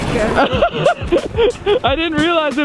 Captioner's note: laughing